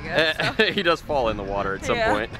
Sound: laughs

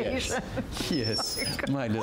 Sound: laughter

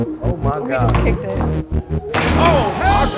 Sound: upbeat music; ball bouncing; ball dunking

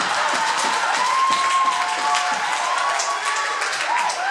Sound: crowd laughter and applause

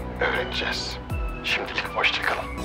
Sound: Akif voice

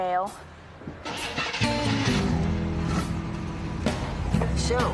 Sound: car engine starts

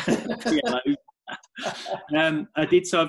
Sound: laughing

